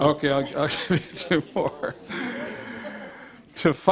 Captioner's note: laughs